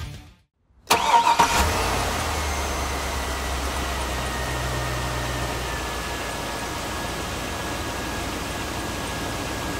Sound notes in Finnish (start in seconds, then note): 0.8 moottorin ääni